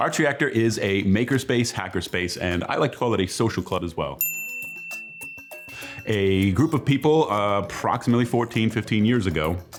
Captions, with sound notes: - Achreactor is a maker space hacker space, and I like to call it a social club as well. (label pinging) A group of people approximately 14, 15 years ago